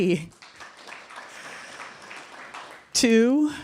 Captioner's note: applause